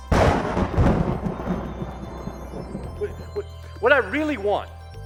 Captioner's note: thunder